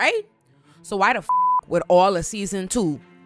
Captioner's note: beep